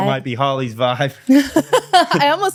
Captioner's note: laughs